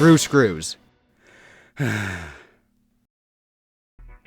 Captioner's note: deep sigh